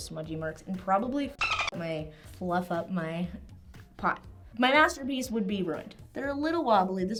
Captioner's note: dolphin Sound